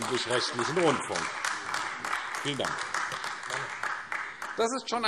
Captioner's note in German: Beifall AfD